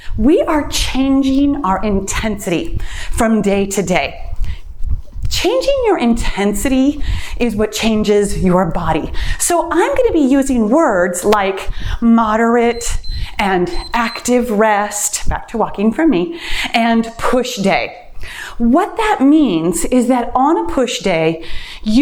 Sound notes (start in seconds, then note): 12.5 timer beeps